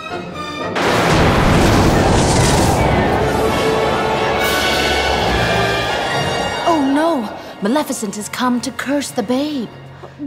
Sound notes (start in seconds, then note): 1.3 loud crash; 2.5 ominous music